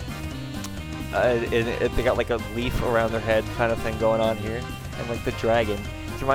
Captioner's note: stuttering